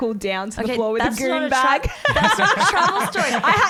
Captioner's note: laughs